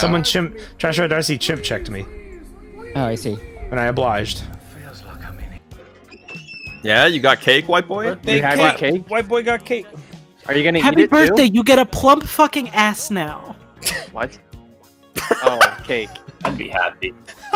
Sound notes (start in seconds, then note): 6.0 sound of door creaking open; 13.9 scoff; 15.2 laughs